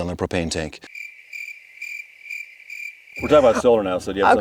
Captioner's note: crickets chirping